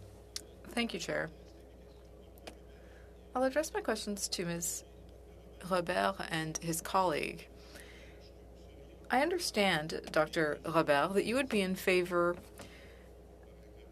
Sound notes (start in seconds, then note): 4.4 speaking French